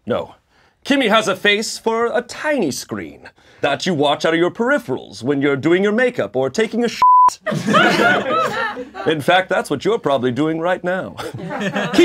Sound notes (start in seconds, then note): 7.0 beeping